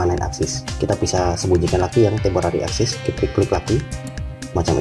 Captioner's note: click